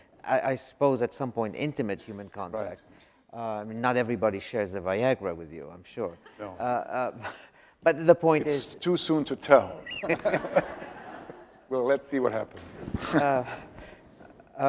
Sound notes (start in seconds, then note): 9.8 audience laughs